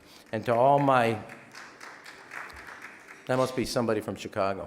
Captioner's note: audience member applauding